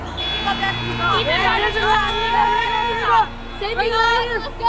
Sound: cheering

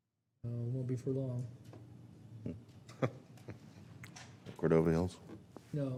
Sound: laughter; laughter

